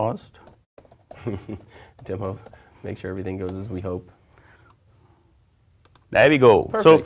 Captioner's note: laugh